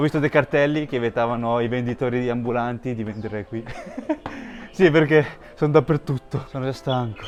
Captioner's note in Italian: risate